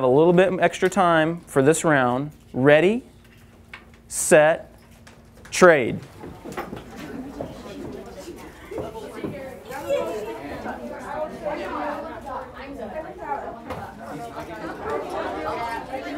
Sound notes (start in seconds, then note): 8.5 classmates talking, trading